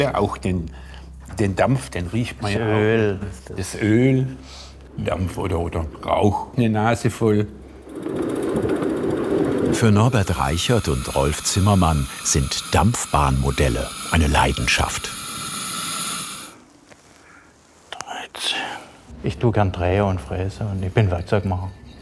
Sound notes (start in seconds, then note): 7.0 rattling; 15.0 hissing; 17.5 thoughtful whisper